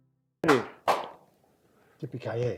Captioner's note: clapping